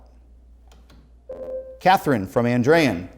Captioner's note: ringing